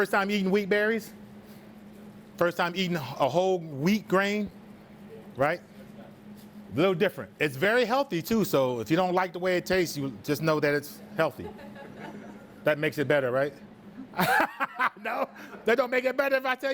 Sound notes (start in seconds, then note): 11.8 student laughs; 14.1 laughs